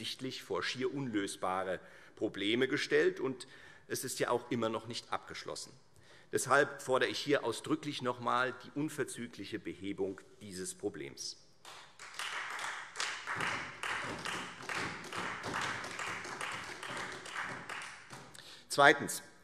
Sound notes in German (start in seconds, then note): 11.6 Beifall Freie Demokraten und vereinzelt SPD